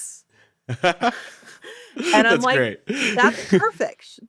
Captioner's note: chuckles